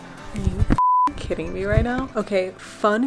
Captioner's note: beep